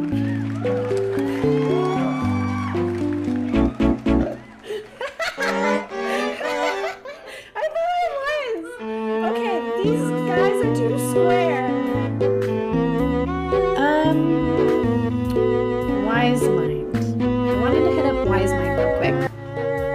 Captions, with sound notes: *applause* *inHAles*-ha-Ha-HA-HA! *inhales*HA-HA-ha-haa*inhales* iiiiiiiifaaawaaaaassss- -okay these guys are toooo square uhhhhmmmm wise mind i wanted to hit up wise mind real quick